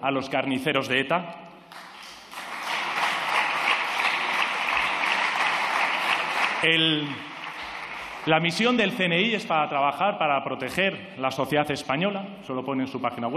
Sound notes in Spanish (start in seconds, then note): 1.7 Aplausos